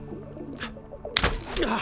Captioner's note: twang!